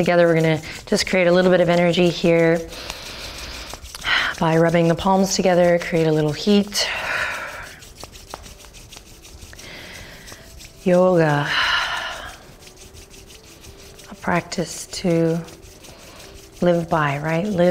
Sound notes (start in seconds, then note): 2.6 hands rubbing; 8.1 hands rubbing